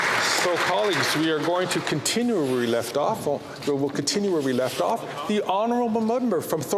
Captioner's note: applause